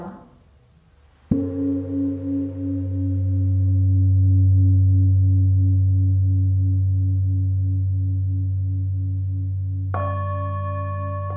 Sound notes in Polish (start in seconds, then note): 1.3 gong; 9.6 dźwięki uderzenia w misy